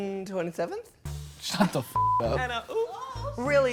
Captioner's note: beep